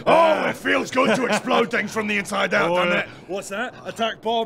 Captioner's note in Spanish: risa malvada